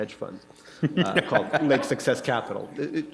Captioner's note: laughter